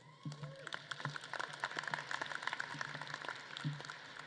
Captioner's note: audience claps